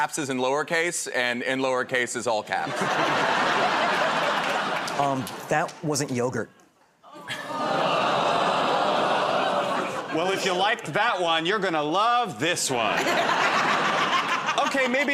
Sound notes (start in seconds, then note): 2.6 laughter; 7.1 audience groans